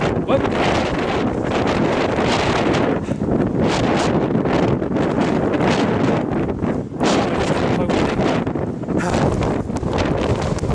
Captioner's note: blizzard intensifies